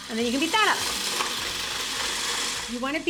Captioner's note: stand mixer whirring